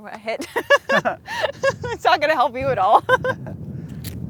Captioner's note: laughs